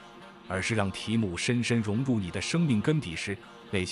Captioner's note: chanting